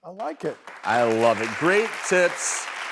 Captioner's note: applause